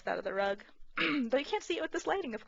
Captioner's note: clears throat